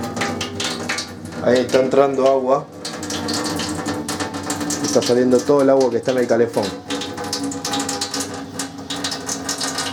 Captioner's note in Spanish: boiler